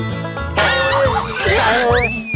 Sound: sassy

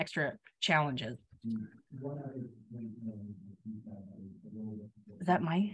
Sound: computer faintly grumbling in the distance

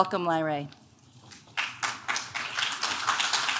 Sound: clapping

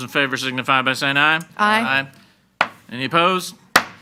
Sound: gavel bangs

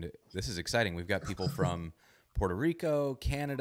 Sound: laughs

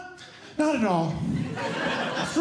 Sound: audience Laughing

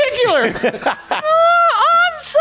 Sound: laughing

